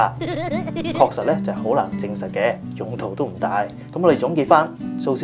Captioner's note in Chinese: 嘻嘻